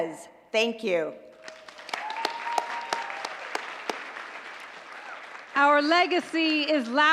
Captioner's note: applause